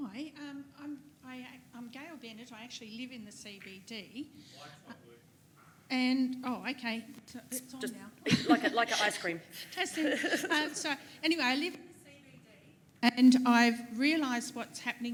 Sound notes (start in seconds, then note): 9.5 background chatter